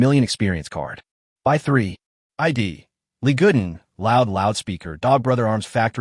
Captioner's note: loud Loudspeaker